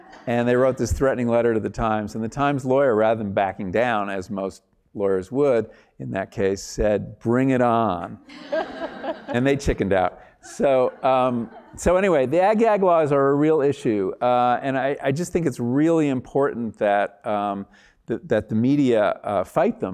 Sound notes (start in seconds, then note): 10.4 laugh